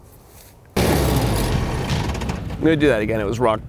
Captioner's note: engine sounds